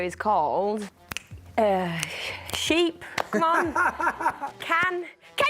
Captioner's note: laughing